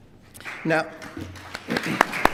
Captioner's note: applause